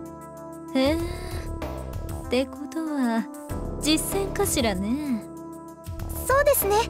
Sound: bemused hum

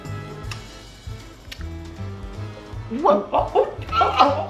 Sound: tongue click

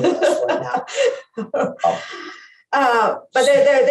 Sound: laughs

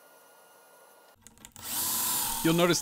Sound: drilling

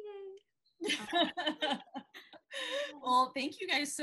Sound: laughing

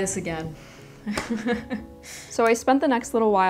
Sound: laughs painfully

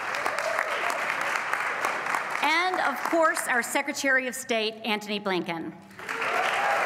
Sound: applause; applause

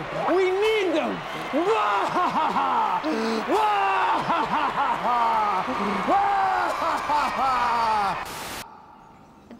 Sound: laughs maniacally

